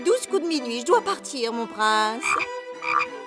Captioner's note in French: coassements